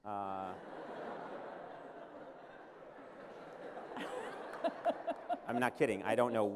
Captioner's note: laughter